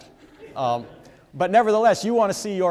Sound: audience members laugh

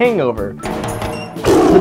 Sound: tiger screams

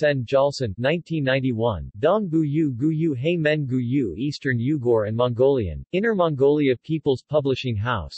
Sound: eastern Yugur and Mongolian

